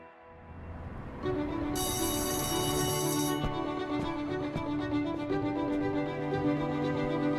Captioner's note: bright music; bell ringing